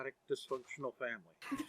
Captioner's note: everyone laughs